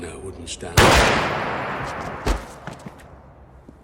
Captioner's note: gun firing